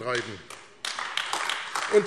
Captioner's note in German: Beifall AfD